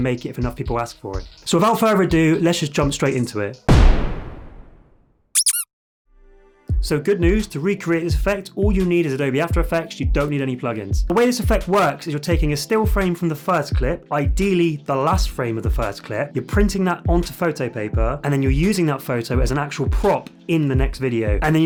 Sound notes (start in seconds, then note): 3.8 dramatic beat; 5.3 toy duck squeaking